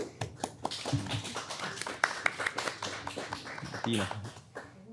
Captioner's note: everyone applauding